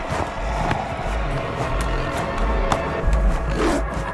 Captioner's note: Yvonne growls